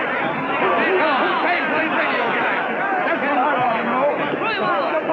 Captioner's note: angry shouting